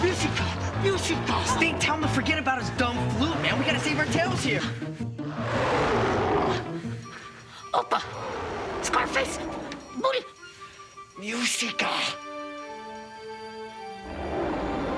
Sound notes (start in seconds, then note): 0.0 Stink whimpers; 5.4 Scarface growls; 12.7 soft music